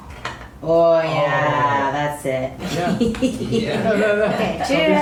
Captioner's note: laugh